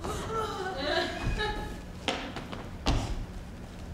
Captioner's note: Baptista groans